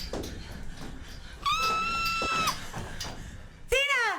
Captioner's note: screaming